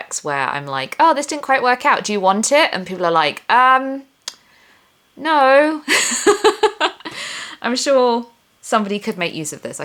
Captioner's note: laughs